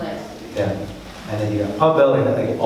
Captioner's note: woman speaks off microphone